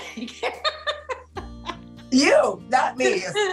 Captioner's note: coach laughs